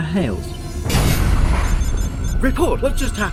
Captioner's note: loud crash